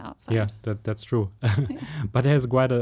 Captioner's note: laugh